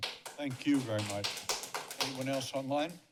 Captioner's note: applause